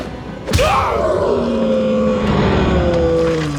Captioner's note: grunts